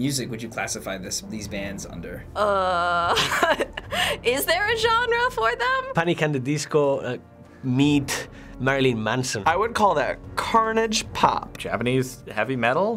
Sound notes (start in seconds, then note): 2.8 laughs